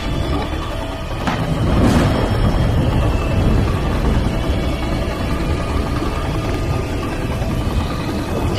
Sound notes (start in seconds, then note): 1.2 thunder booms